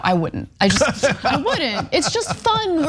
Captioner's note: laugh